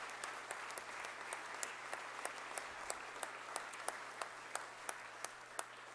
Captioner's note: applause